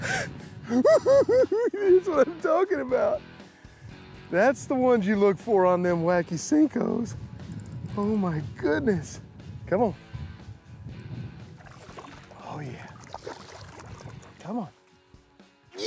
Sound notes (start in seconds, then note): 0.7 giggles